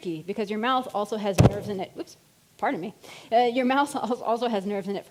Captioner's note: bumps mic